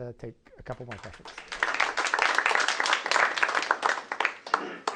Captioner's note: applause